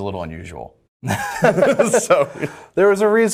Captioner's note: laughs